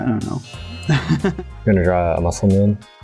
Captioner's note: laughs